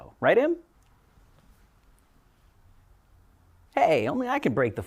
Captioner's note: awkward silience